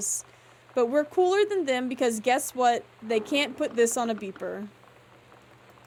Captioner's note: house Groaning and Creaking